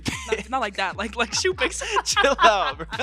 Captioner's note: both chuckle